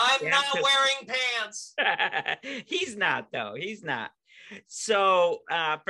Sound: laughing

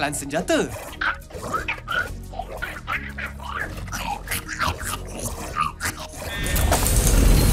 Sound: chittering

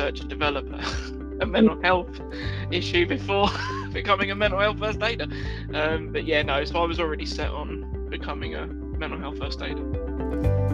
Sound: chuckles

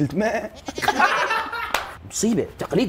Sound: all laughing 🤣

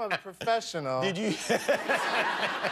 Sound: laughter

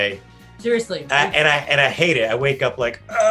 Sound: groaning

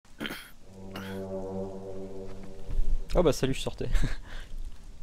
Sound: horn

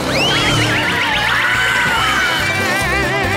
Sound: screaming

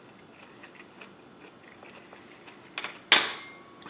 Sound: silent

